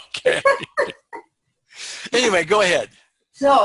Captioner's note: chuckling